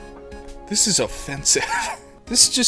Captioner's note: wheeze